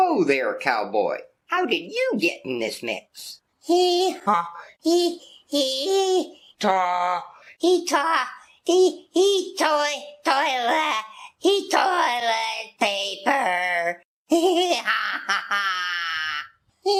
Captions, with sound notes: - Whoa there, cowboy, how did you get in this mix? (stuttering and stammering) - Toilet paper. (giggles)